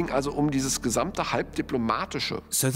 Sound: speaking German

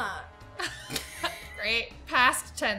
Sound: both Laugh

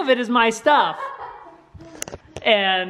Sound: laughs

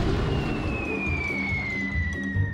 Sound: bang; falling object whistling

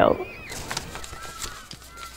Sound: paper rustling; children playing

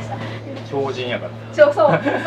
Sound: laughs

